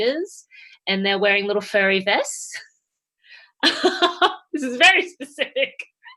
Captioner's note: laughing